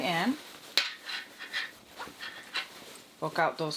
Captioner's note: bag rustling